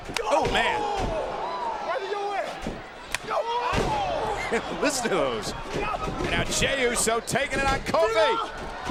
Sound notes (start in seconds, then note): 3.1 punches thwacking